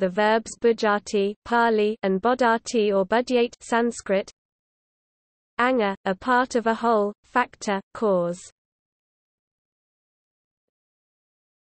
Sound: Pāli

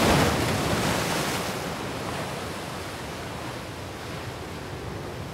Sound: waves crashing

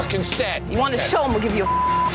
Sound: beep

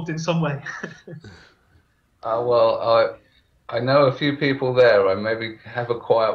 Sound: laughs

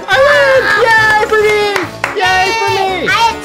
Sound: clapping

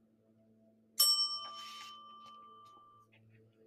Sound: bell dings

